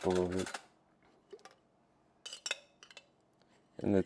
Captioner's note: ice clinking